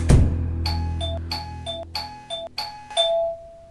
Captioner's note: door bell